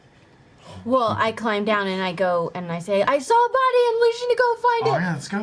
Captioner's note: gasps